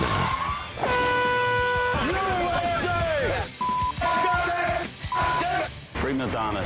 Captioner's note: buzzer